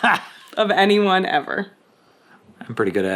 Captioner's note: chuckling